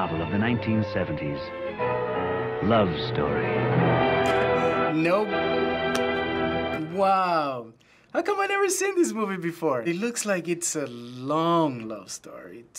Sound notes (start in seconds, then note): 4.4 chuckles